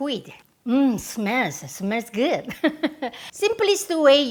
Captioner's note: laughs